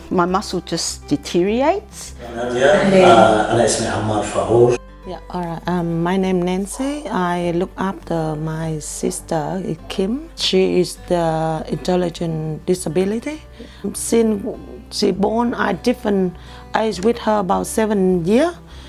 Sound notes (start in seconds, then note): 1.9 speaking Arabic